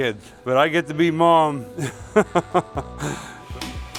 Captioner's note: laughing